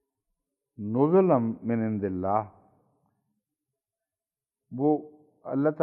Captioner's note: Arabic